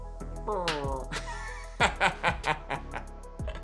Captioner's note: laughs